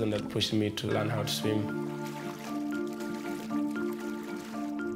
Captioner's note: splashing